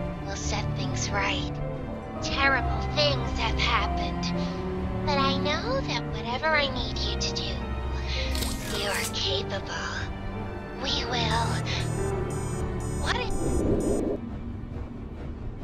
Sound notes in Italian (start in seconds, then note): 11.4 Bip statico